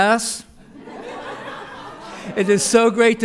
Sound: laughter

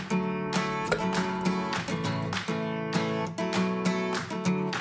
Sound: toy falling

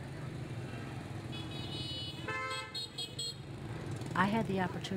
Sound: horns honking

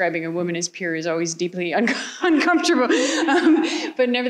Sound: laughs

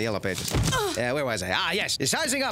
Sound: Mrs. Whitman grunts

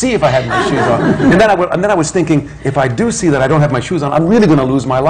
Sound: laughter

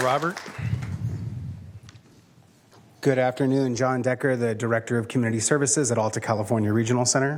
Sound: applause

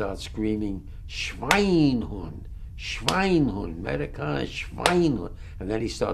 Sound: german

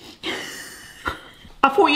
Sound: both laugh

